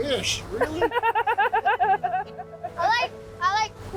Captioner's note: laughs